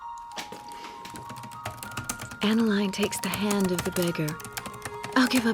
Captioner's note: typing resumes